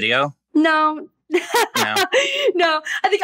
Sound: laughs

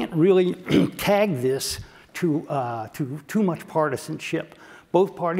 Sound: cough

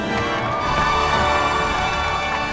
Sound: cheering

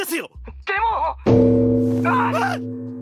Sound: the bell rings

